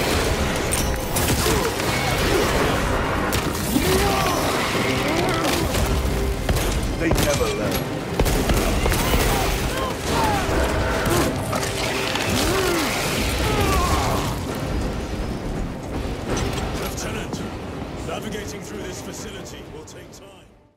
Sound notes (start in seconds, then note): 0.0 weapons firing; 0.2 characters grunting; 8.1 weapons firing; 9.2 characters grunting